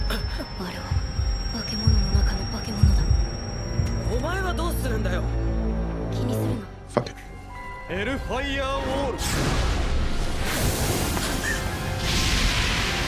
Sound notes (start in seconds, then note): 0.0 ominous high pitched sound; 3.2 high pitched noise getting louder